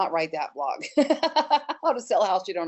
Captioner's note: laughs